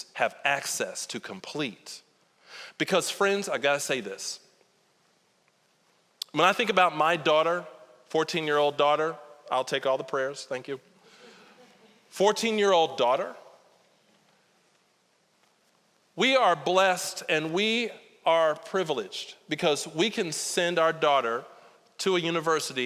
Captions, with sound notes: have access to complete? Because friends, I gotta say this. When I think about my daughter, 14-year-old daughter-- I'll take all the prayers, thank you. (audience chuckling) 14-year-old daughter. We are blessed and we are privileged because we can send our daughter to a university